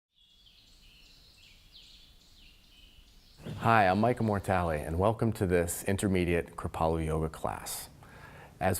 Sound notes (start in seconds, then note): 0.1 birds chirping